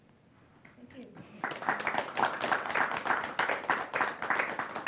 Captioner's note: applause